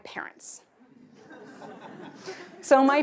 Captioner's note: laughter